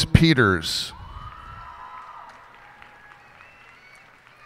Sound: cheers and applause

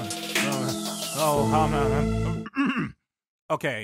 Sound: clears throat

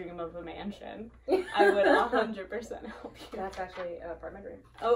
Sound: laughing

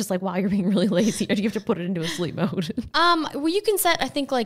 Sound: laughing

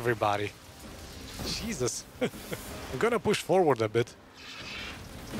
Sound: laughs

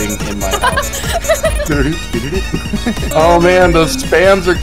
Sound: laughs

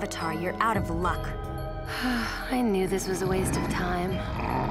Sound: sighing

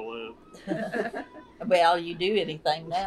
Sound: laughter

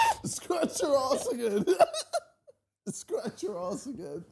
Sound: laughing

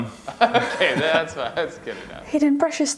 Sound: laughing

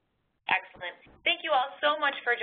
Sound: voiceover

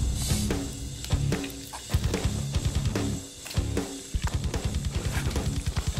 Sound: rock music; blade impacts

